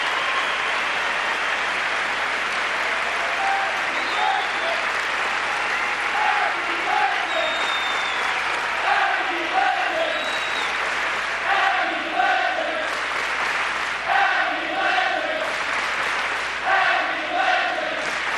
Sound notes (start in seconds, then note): 4.0 crowd chanting